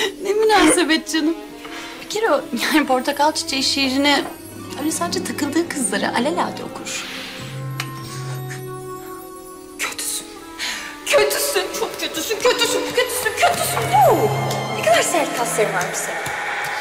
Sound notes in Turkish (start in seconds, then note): 7.7 Öpücük sesi